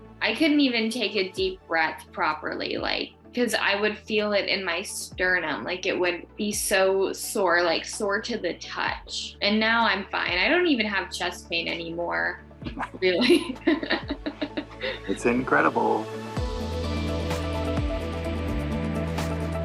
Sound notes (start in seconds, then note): 12.6 laughs; 16.7 gentle music